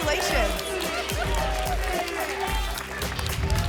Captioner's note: applause and cheering cont